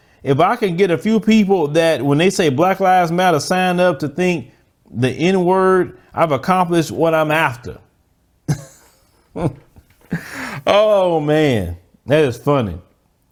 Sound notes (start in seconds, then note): 8.5 laughs